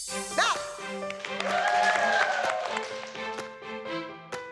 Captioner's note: girls whooping